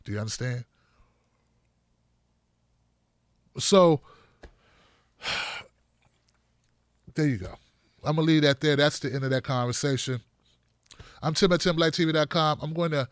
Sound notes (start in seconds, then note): 5.2 sighs